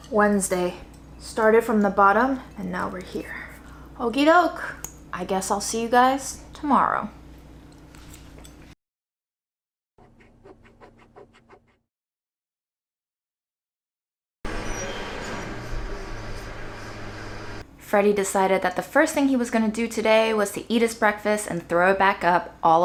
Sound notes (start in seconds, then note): 10.0 eraser scratching